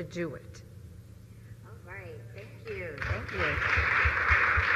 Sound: applause

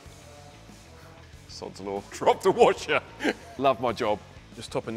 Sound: chuckles

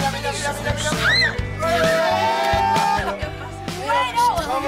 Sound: screaming

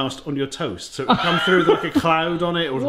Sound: laughs

